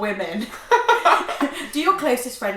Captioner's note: laughter